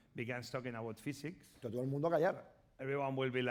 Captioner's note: speaking spanish